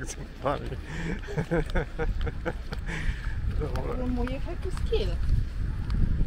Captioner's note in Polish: śmiech